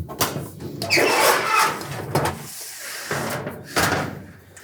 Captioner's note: metal screeching